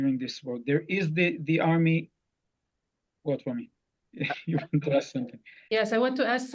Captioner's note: laughs